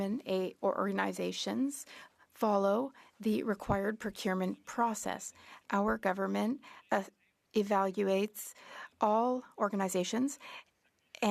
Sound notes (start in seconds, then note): 2.4 speaking French